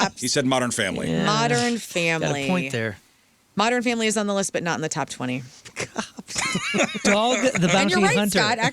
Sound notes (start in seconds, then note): 7.6 laughing